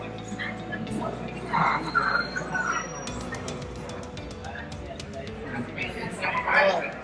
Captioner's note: steam locomotive brakes squealing